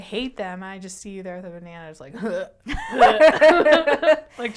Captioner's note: gagging sounds